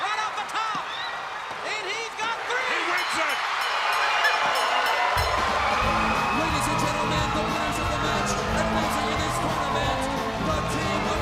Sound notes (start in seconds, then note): 2.8 bell ringing; 5.2 crowd cheering